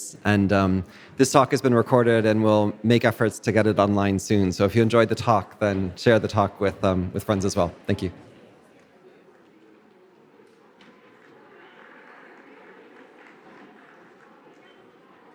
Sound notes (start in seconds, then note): 9.0 audience chattering; 12.1 audience clapping